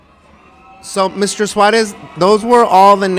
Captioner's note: loud cheering